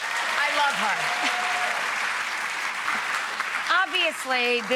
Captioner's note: audience applauds